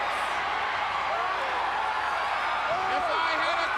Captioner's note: Sting cheering; crowd cheering